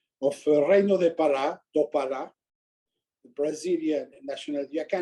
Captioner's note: speaking foreign language